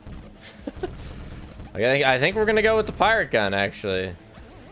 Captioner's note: laughs